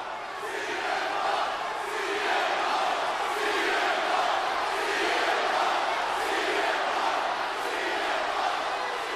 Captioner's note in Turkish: Alkış